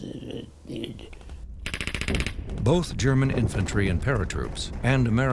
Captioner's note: gunshots firing